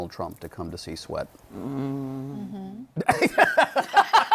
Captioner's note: grumbles; laughter